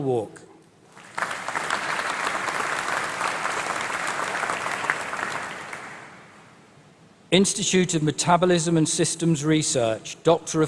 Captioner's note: applause